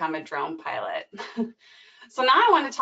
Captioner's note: chuckles